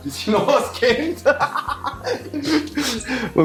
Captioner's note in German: lachen